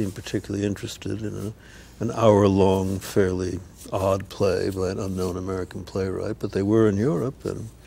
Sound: none

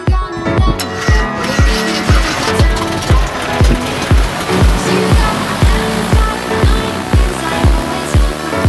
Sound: Piper Cherokee engine starting; music

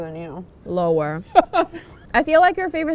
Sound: laughing

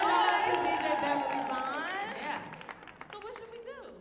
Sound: audience cheering

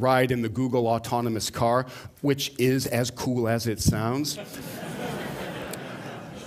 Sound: laughter

